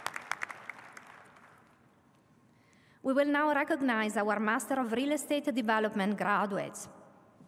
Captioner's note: applause